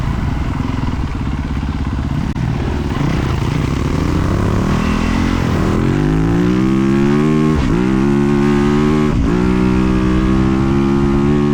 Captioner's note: engine revving